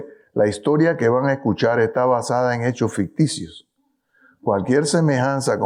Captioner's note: speaking in foreign language